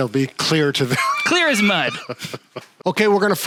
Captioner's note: both laughs happily